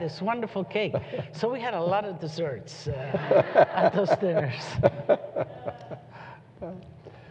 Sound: laughter

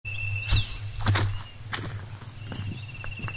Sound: footsteps

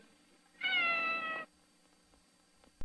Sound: Mimsie mewing

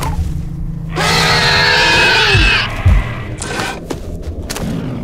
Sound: growling

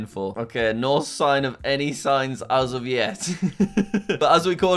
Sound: laughs

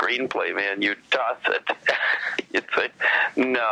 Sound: laughs

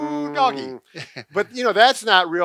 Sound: chuckles

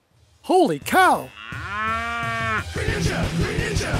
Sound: cow moos

